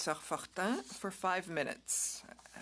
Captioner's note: speaking French